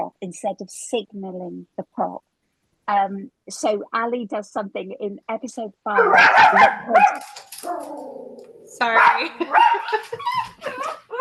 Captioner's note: dog barks